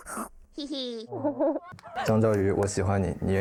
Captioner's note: chuckles